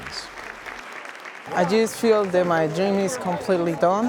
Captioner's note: applause